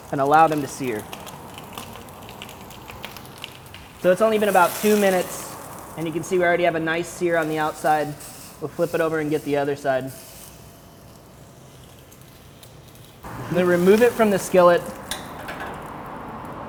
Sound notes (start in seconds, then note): 1.3 popping and sizzling; 10.5 sizzling